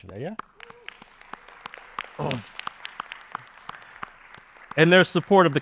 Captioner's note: attendees applauding